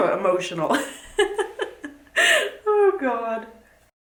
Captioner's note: laughs